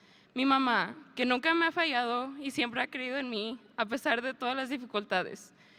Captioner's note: speaker speaking in a foreign language